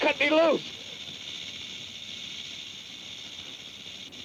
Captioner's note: snake rattles